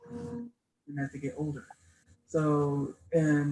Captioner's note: audio cuts out